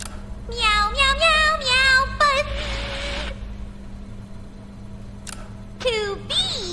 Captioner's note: buzz is buzzing and Intoxication